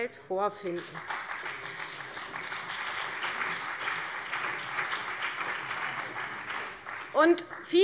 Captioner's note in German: Beifall CDU und BÜNDNIS 90/DIE GRÜNEN